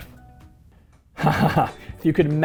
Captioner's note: laughing